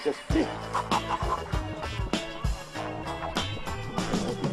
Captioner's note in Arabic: نفخ